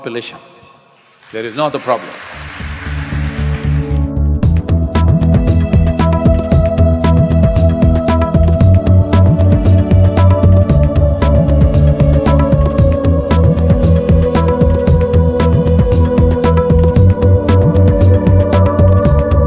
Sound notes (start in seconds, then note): 1.2 applause